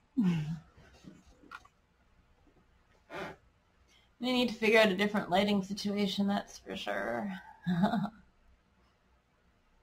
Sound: giggles

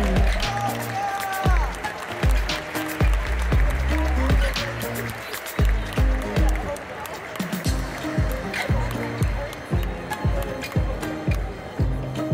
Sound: applause; ♫ Midtempo guitar music ♫

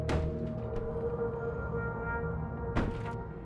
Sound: banging continues

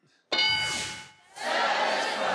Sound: dinging; crowd

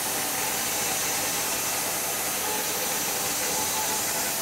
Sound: saw blade whirring

